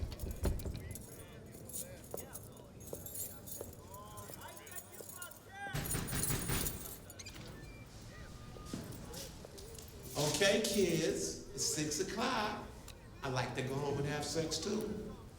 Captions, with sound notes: (door rattles) (men chattering) (keys clanking) (knocking at door) - Okay kids, it's six o'clock. I'd like to go home and have sex too.